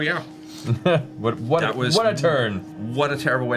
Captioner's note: laughs